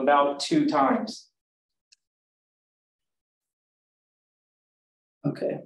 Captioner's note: silence